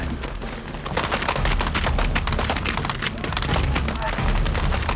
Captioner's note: continuous gunfire